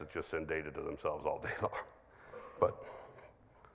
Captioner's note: chuckles